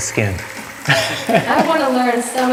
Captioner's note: laughing